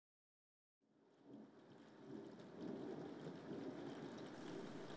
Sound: thunder rolls in the distance, accompanied by the steady drizzle of rainfall

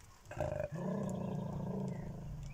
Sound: Gilbert growls again

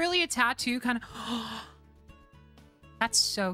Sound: gasp

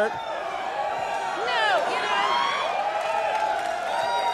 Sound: audience cheering

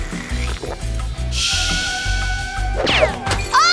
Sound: kettle boiling

